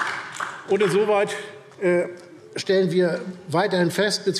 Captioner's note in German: Beifall DIE LINKE